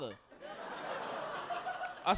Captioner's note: audience laughing